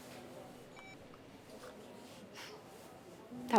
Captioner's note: phone beeps